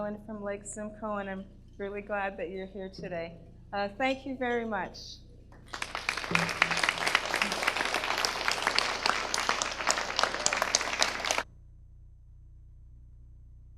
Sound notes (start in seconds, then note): 5.6 audience applause